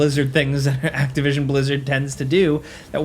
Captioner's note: chuckling